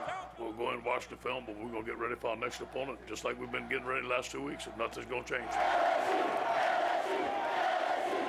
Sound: cheers

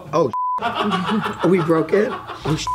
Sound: beep; beep

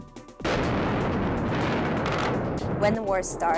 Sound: bomb explodes

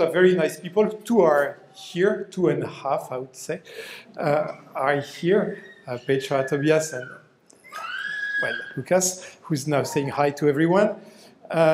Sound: baby crying

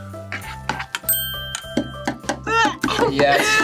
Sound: bell rings

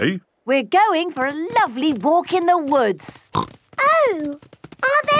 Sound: snorting

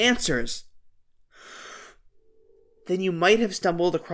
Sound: deep breath

